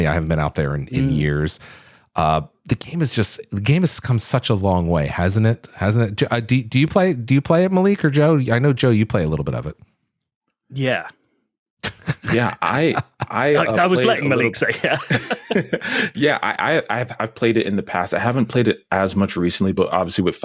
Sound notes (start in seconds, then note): 11.8 laughter